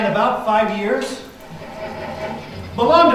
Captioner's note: engine noises